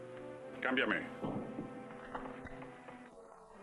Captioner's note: gun thudding